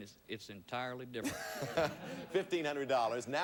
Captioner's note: audience laughing